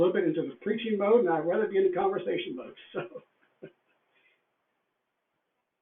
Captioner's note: laughs